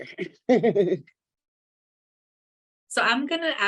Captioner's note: laughs